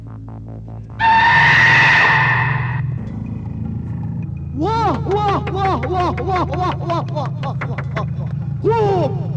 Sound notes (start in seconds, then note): 5.4 clapping